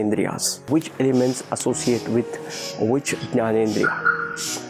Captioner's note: foreign language